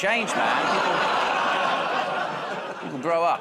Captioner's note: audience "Oh"s